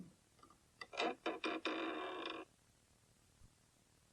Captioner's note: SFX: knocking; SFX: door creaks open